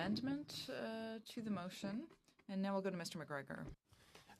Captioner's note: speaking French